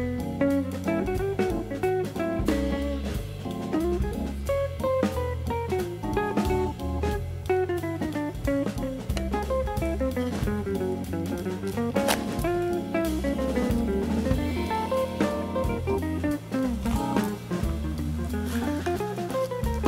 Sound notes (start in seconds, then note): 10.1 slip